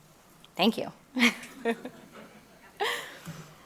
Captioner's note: chuckles